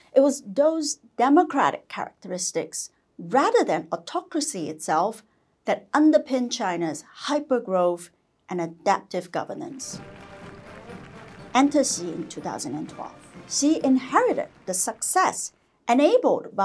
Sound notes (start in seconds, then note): 9.7 people clapping; 9.8 nationalistic music